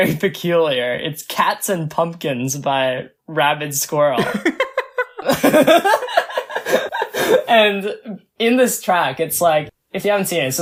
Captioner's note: both laugh